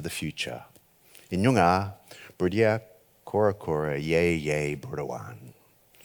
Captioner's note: speaks foreign language